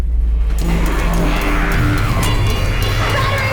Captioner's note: zombies growling